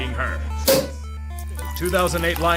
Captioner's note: pops champagne